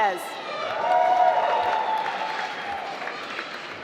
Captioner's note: applause